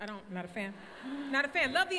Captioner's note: crowd laughs